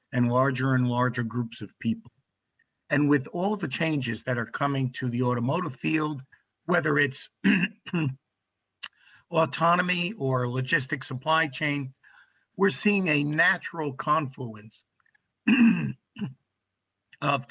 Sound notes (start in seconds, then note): 7.2 clears throat; 15.4 clears throat